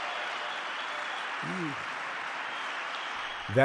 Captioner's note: cheering